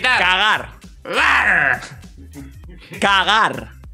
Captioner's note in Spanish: gruñe